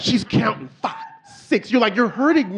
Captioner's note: audience laughing